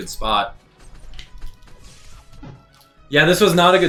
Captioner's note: fighting sounds